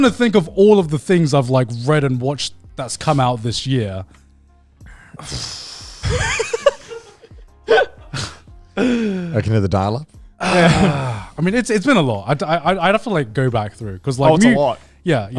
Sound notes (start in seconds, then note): 6.0 laughing